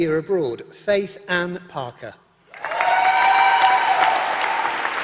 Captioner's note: applause